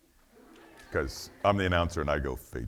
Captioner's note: audience laughing